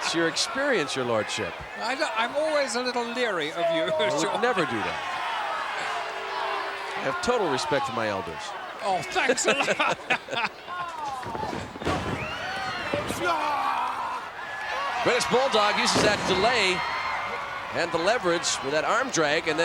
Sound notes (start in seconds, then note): 9.0 chuckling